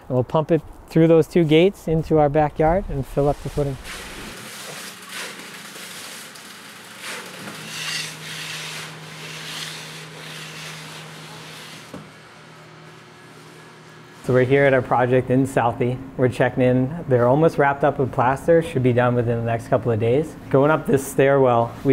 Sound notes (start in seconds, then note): 3.8 concrete splashing; 7.5 noched trowel scraping